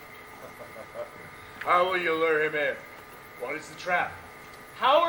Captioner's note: laughs